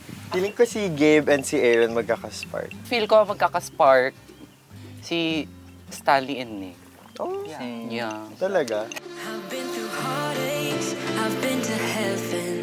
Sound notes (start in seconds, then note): 5.2 bong